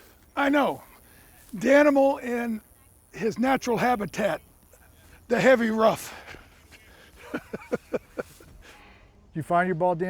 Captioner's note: laughs